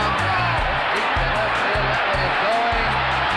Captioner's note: crowd cheering